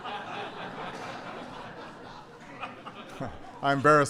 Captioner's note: laughter